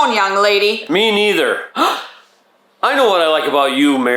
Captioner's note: gasping